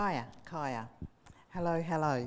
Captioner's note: speaking in foreign language